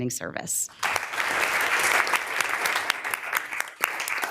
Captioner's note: members applauding